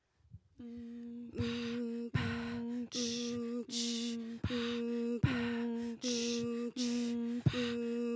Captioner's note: humming and vocalization